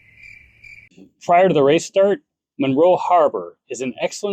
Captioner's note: crickets chirping